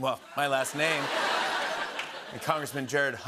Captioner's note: laughter